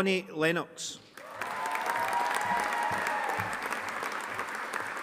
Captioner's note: audience applauding